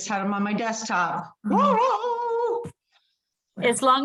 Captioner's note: groans